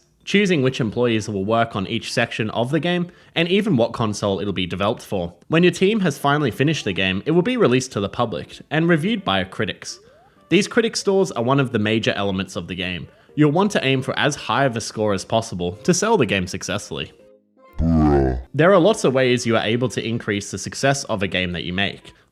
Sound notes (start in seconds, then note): 17.8 slowed down bruh sound effect